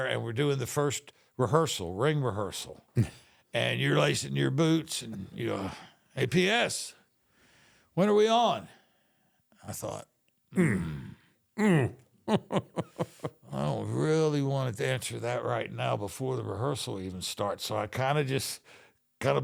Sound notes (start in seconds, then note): 12.2 The Undertaker giggles